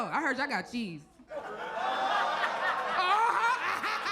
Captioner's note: audience laughs; laughs